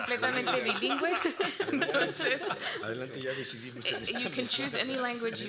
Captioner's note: moderator speaking Spanish; all laughing